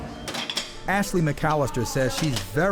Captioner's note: dishes clattering